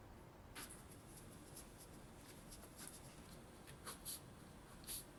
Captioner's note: pen scribbles